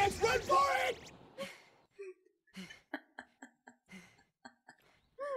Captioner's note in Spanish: Risa de outro